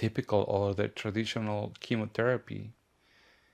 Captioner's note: none